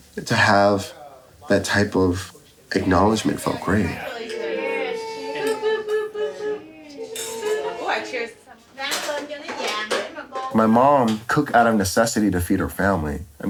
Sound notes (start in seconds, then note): 4.4 overlapping chattering; 9.0 speaking in a foreign language